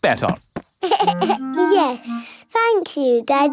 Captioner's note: giggles